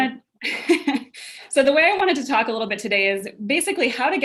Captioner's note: laughs